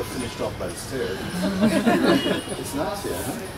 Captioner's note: laughter